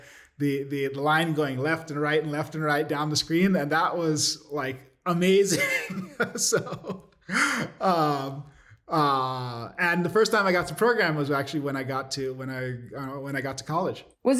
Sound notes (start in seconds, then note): 5.4 laughter